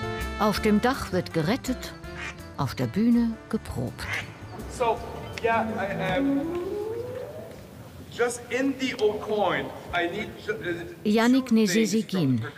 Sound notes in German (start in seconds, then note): 4.9 Anweisungen auf Englisch